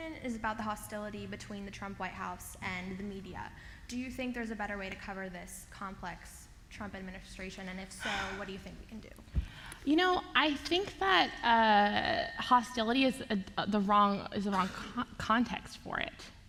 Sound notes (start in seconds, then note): 8.0 audible sigh